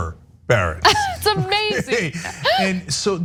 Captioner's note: laugh